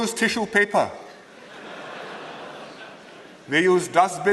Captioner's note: laughter